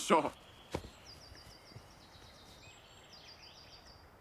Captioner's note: birds singing